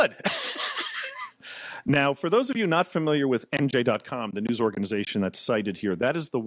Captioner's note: laughing